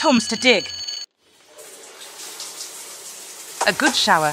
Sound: water noises ♫

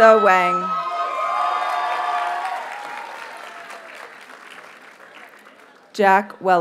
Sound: audience cheers and applauds

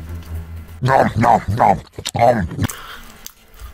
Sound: nom nom nom, om nom

